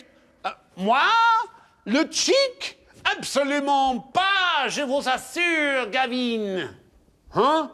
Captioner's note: speaks French